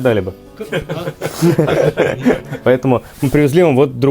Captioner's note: laughing